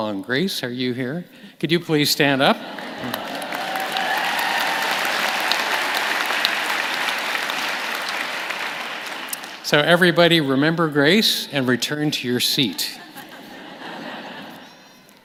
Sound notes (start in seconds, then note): 10.8 applause; 15.0 laughter